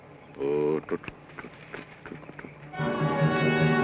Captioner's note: Joshua hums melodically; tense orchestral music